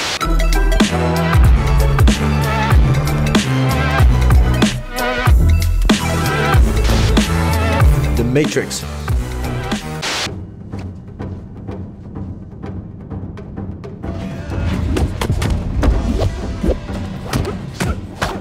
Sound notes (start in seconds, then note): 0.2 upbeat music; 10.1 static crackles; 10.2 ominous music